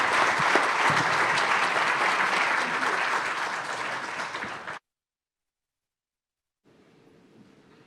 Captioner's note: applause